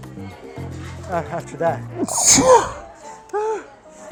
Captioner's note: sneezes again